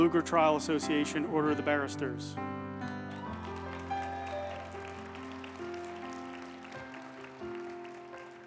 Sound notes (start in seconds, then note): 2.8 uplifting music; 2.9 group applauding